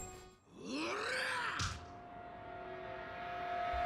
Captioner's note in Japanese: うめき声